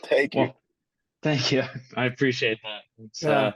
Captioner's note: chuckle